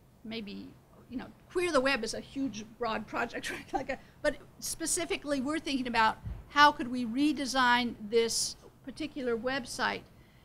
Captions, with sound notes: Maybe, you know, queer the web is a huge broad project, (laughs) but specifically we're thinking about how could we redesign this particular website